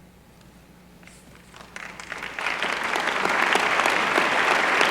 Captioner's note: applause